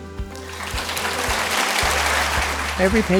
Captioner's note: applause